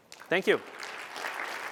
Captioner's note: applause